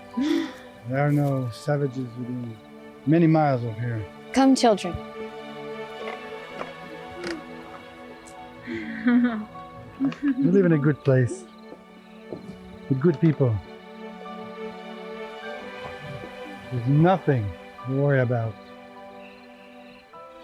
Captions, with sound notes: There are no savages within many miles of here. Come children-- [Footsteps] We live in a good place... with good people... There's nothing to worry about!